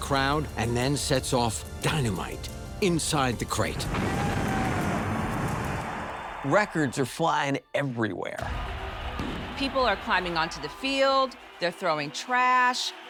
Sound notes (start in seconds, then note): 3.8 dynamite booming; 8.4 crowd clamoring; 8.4 explosion booming